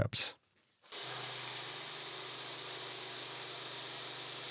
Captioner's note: machine whirring